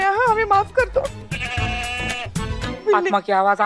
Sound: goat bleating

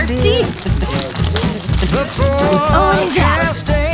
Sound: wrapping paper crinkling

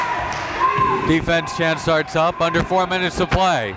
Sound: cheering and yelling

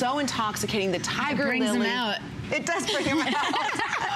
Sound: laughter

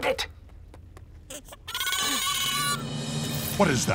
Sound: screeching

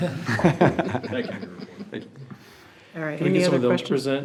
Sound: everyone laughs

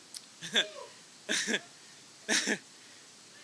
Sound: laughs

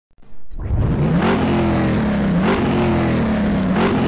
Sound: engine revving

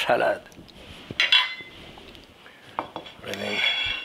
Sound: plate clinks

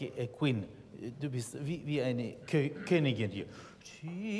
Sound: in German

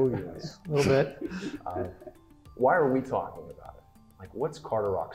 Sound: laugh

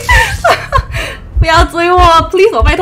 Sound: laughs

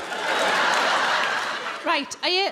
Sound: crowd laugh

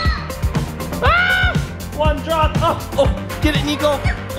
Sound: screams

